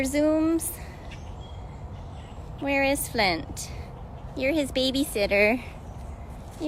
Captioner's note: birdsong